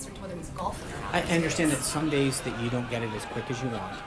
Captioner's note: raucous laugh track